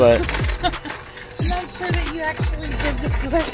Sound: laughing

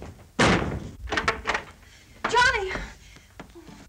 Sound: door slams

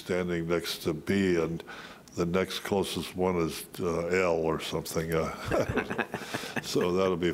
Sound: laughs

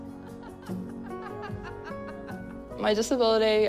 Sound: laughs

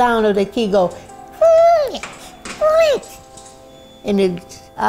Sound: makes turning sounds

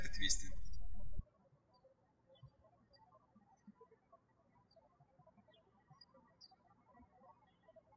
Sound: birds chirping

